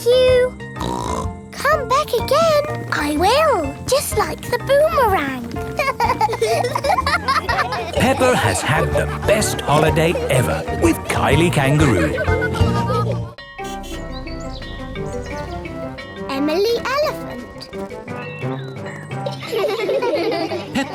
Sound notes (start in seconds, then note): 0.8 snorts; 5.6 laughing; 13.4 bell dinging; 19.2 all laugh